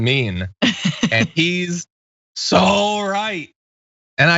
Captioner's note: laugh